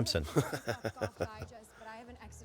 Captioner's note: fillion laughs